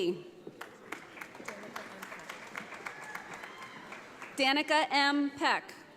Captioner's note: audience applauds